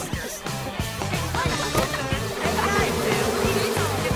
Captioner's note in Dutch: zoemende bijen